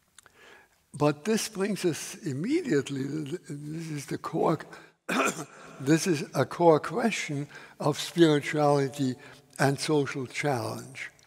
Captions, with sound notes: But this brings us immediately, this is the core... [coughs] this is a core question of spirituality and social challenge.